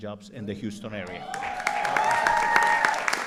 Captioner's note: applause